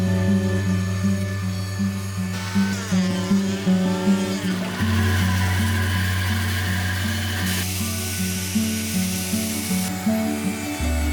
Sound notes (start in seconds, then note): 0.8 tools buzzing